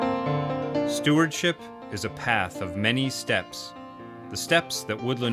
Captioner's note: voiceover